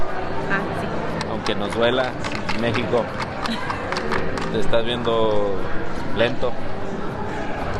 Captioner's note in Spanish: risas